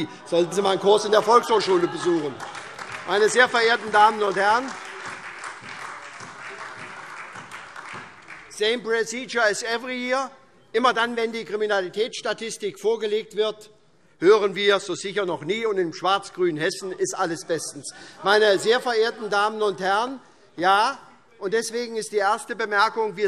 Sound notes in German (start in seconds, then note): 2.9 Beifall SPD - Widerspruch CDU und BÜNDNIS 90/DIE GRÜNEN